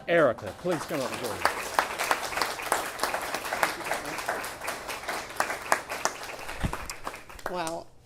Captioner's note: applause